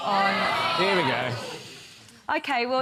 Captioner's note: audience groans